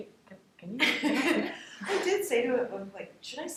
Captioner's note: laughing